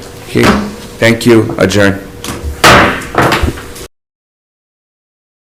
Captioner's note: gavel bangs